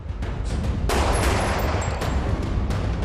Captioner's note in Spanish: Disparos